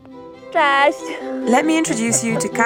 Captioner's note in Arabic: تتحدث بلغة أجنبية